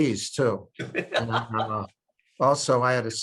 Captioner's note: chuckles